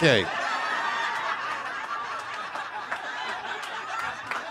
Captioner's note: audience laughing